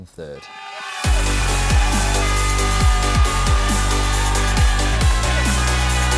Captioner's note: crowd cheering; upbeat music